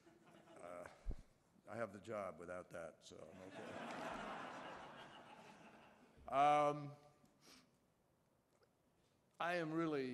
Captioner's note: laughter